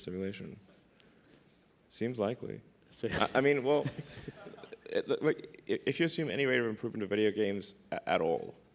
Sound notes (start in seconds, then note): 1.0 laughs